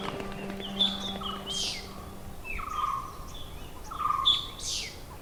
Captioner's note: birds chirping